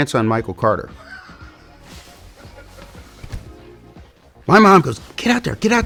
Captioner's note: interviewer chuckles